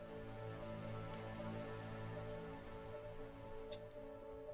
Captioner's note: none